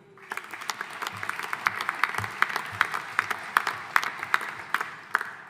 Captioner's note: audience applauding